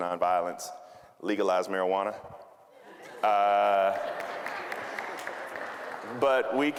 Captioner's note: audience laughing